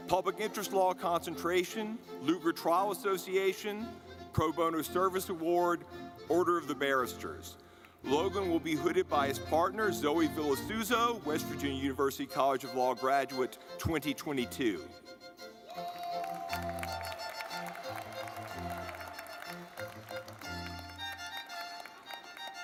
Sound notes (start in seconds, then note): 15.4 lively music; 15.7 audience clapping